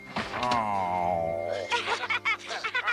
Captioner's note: groans; laughs